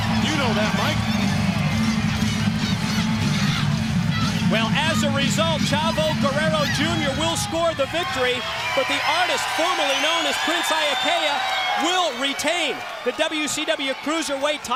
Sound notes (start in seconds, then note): 2.6 crowd chatter